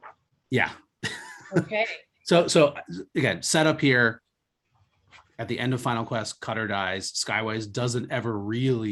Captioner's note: laughs